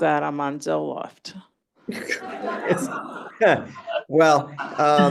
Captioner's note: laughter